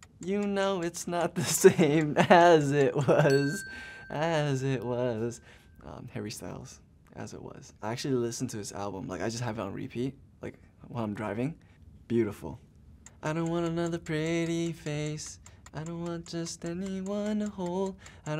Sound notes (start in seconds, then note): 3.2 bell rings; 13.0 timer ticking